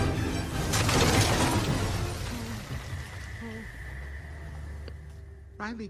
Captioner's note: crashes